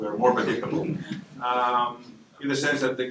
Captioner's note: laughter